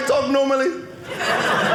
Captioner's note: audience laughing